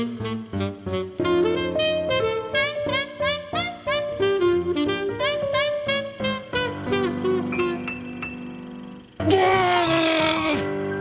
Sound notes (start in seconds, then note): 9.7 grumbles